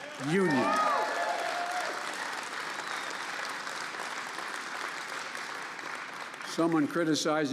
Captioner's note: applause